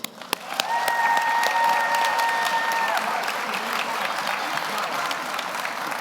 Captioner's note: audience applauds; audience cheers